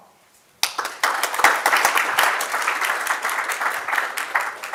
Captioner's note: audience clapping